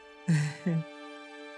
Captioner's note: laughing